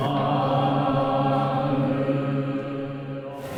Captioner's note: chanting